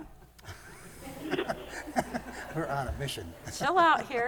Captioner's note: laughter